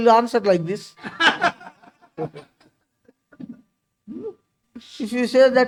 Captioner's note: laughs